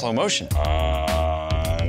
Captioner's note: distorted